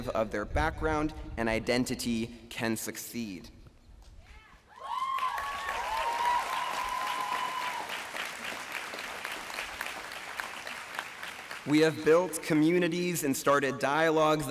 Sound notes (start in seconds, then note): 4.7 cheering, applause